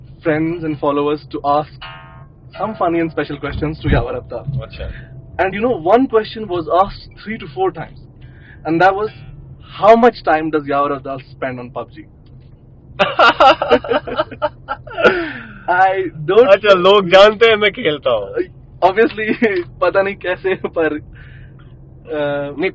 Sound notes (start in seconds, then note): 13.0 laughs